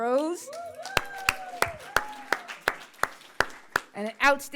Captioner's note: crowd applauds